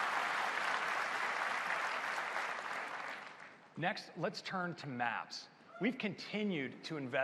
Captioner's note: applause